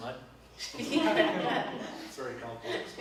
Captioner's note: both laugh